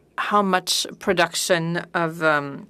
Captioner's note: speaking French